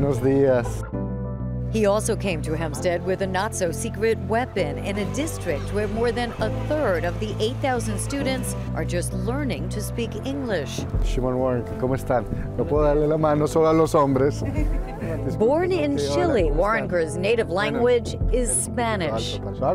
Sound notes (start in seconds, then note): 13.5 speaking foreign language